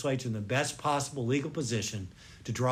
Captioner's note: none